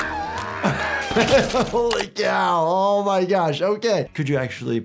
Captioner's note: laughs